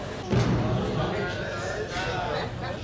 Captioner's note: inmate chattering